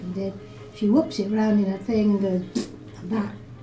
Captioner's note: pbbbbt